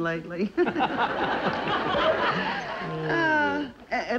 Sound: Brad and Joan laughing

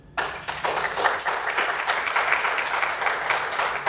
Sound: applause

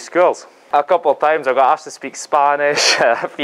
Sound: laughs

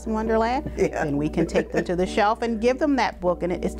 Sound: laughs

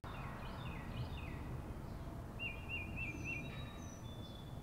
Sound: birds chirping

